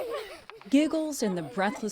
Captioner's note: laughter